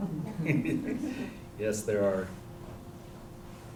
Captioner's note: chuckles